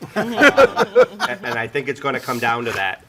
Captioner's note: all laugh